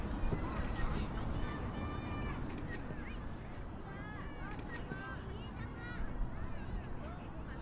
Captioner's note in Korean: 사진 찍는 소리